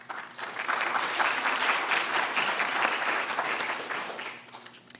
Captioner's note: audience clapping